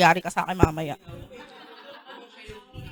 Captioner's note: laughter